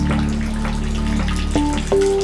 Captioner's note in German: Wasserplätschern